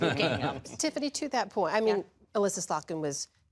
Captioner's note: laughter